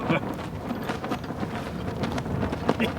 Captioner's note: chuckles